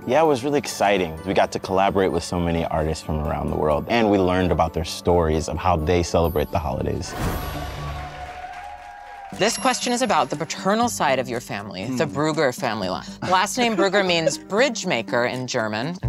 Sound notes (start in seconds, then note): 7.2 crowd cheers and claps